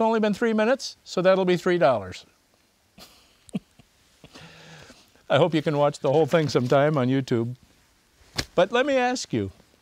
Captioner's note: laughs